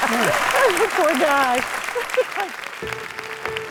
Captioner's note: laughs; bright music